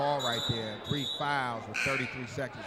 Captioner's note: referee whistling; buzzer sounding